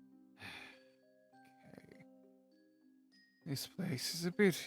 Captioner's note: sigh